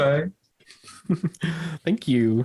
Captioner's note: chuckles